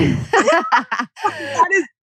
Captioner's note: laughs